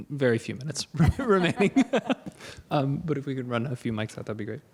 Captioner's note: laughter